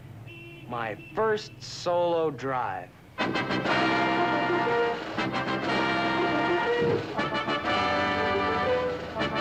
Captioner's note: applause